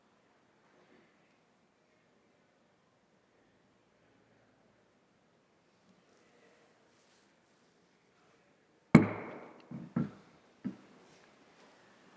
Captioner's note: moment of silence